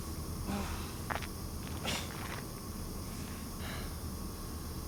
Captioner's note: Mark groans; Mark panting